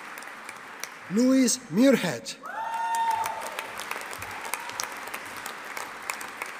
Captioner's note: audience applauding